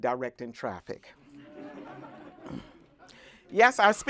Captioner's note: laughter